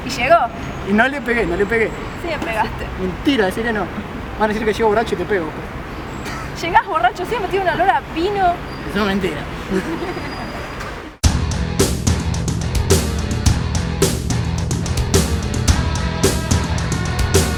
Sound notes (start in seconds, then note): 6.3 laughs; 9.3 talks as drunk